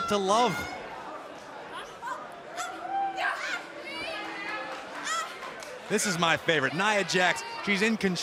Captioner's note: crowd cheering